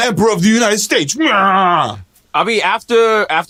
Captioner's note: angry babble